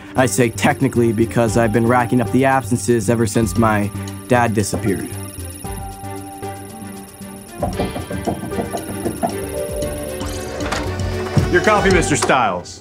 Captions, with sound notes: I say technically because I've been racking up the absences ever since my dad disappeared. [tapping] Your coffee, Mr. Styles.